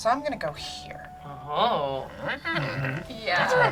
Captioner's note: hums mischievously